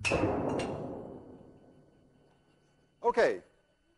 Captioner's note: gunshot